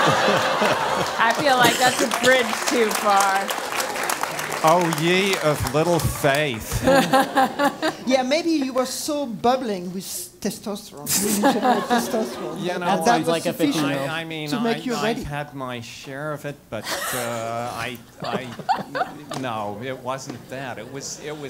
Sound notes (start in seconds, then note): 0.0 laugh; 0.0 applause; 6.6 laugh; 11.0 laugh